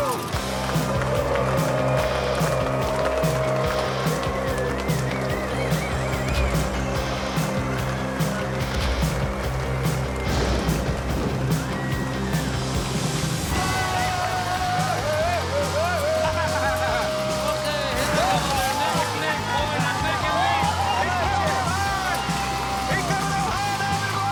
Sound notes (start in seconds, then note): 13.3 yells; 15.4 laughs; 20.7 cheering